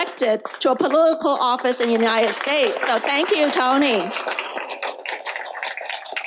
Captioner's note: applause